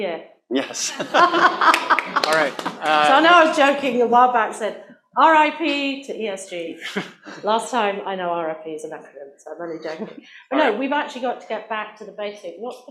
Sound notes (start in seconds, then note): 0.7 laughter; 1.4 applause